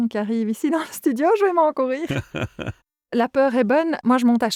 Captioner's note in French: Rires